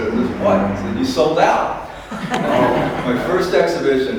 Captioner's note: applause and laughter